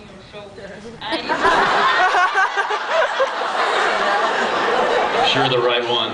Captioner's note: laughs